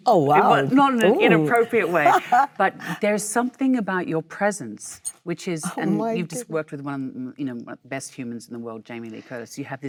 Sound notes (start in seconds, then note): 1.7 Michelle laughs